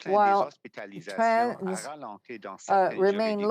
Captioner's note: speaking french